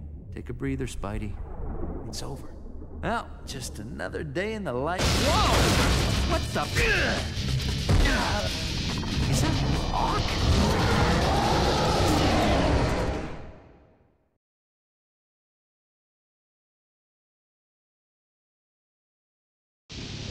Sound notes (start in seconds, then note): 10.3 Monster Ock roars in rage